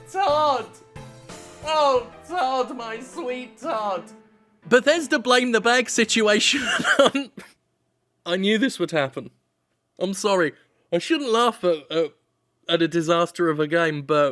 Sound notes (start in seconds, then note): 6.5 laughs